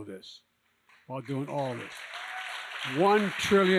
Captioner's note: applause